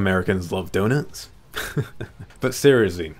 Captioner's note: laughs